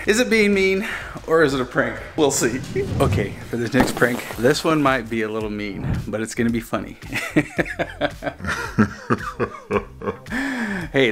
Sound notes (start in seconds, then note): 7.1 evil laughter; 7.2 laughs